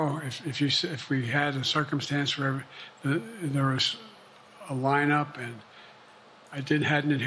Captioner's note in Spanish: HABLA EN INGLéS